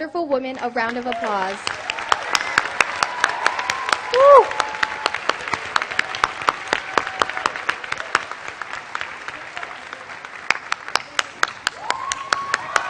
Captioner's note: applause